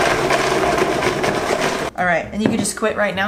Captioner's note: blending